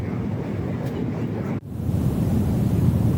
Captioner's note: crickets chirp